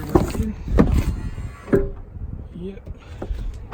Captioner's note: motor whirring